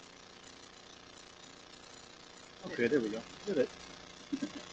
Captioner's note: laughter